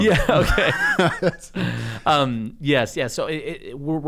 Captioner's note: laughter